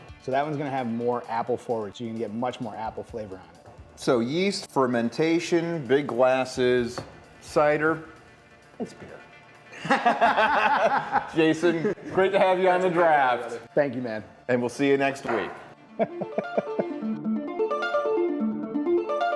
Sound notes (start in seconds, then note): 9.7 laughing; 16.3 fast-paced music